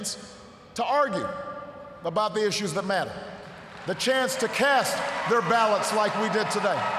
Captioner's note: cheers, applause